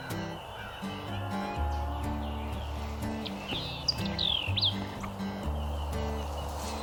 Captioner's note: birds chirp; country music